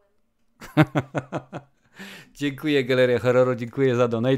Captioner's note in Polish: śmiech